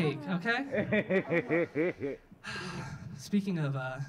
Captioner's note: audience laughing